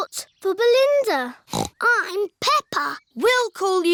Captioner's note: snorts